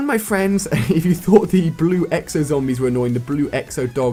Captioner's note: laugh